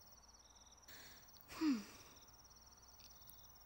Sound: sighs

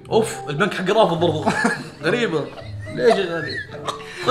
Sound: laughs

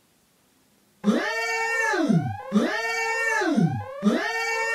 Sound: alarm blares

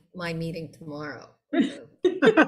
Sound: laughter

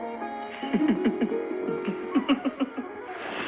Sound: laughing

